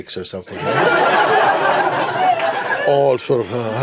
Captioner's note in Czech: smích